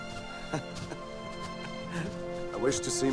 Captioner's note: Homer laughs